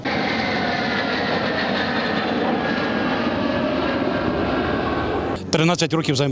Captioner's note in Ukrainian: звук літаків